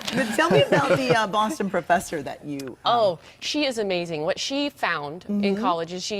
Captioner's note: laughter